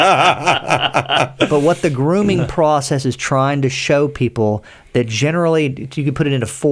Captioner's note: laughter